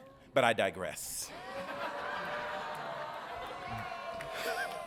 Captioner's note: audience laughing